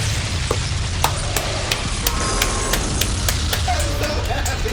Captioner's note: explosions; applause